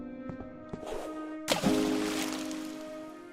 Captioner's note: sad music; splash; sad music